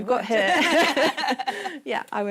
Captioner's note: laughter